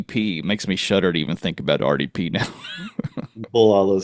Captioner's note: chuckles